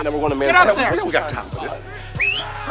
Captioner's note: radar chattering; whistles